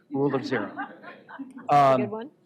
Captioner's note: laughter